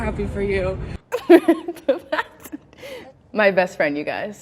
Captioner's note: laughing